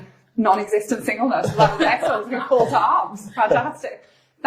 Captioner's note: laughing